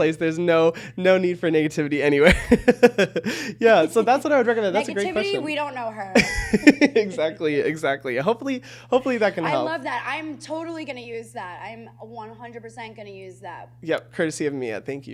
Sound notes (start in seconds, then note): 2.2 chuckles; 6.1 chuckles